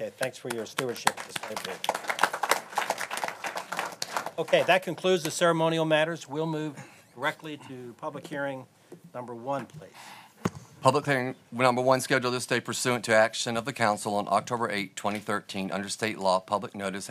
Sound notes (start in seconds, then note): 3.8 applause